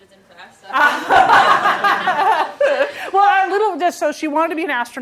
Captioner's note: laughter